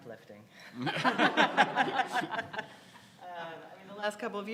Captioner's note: audience laughs